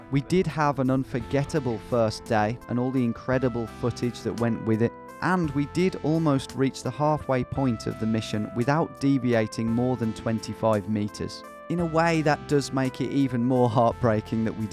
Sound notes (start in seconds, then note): none